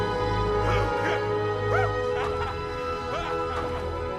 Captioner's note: laughs